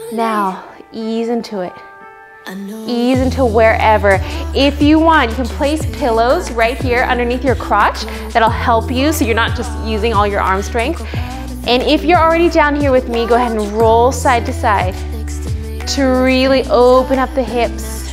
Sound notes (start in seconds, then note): none